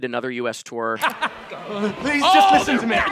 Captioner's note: actor laughing